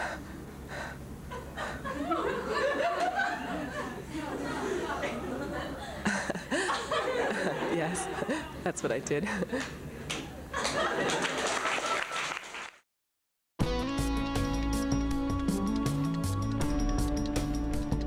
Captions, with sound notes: [Laughter] [Laughs] Yes, that's what I did! [Applause]